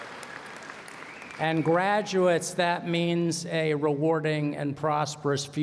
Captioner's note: applause